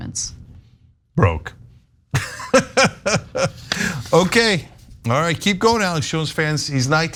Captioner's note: laugh